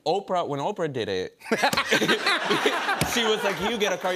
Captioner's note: laughter